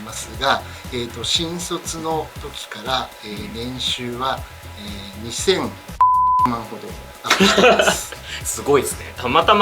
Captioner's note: laugh